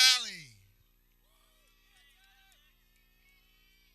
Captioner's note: people cheering